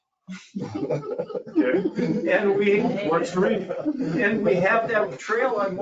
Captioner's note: laughing